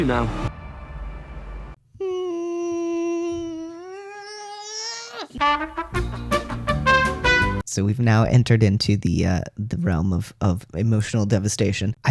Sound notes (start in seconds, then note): 2.0 escalating sadness noises; 5.5 elevator music